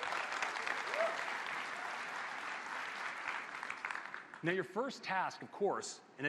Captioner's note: applause